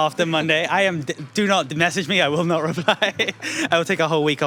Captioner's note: laughs